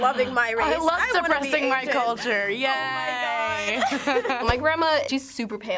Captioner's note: laughter